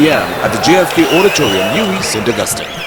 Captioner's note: wild applause and cheering for 22 seconds